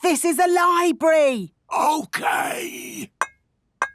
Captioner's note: whispering